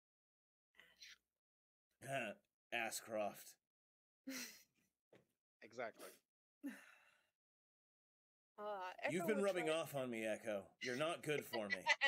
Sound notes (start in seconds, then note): 4.6 laughs